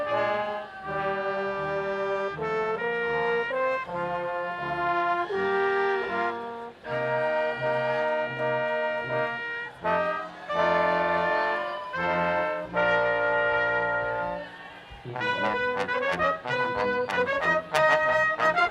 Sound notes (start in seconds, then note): 9.8 audience applauding; 15.4 brass quintet music